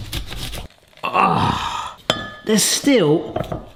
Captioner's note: grunts